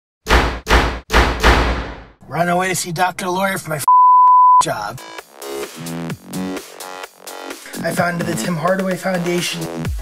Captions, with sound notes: (rapid smacking) - Running away to see Doctor Lori for my (beep) job. (uptempo music) I founded the Tim Hardaway Foundation.